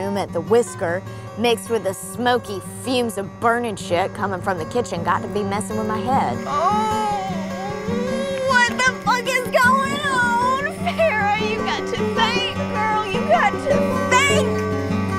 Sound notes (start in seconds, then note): 6.4 Ferra moaning; 14.9 soft eerie music